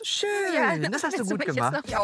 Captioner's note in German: lachen